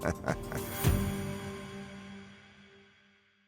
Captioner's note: laughs